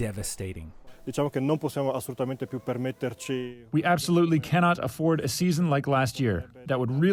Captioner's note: through translator